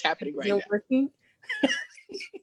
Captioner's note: laughs